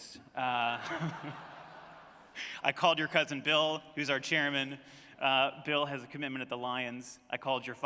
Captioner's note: laughter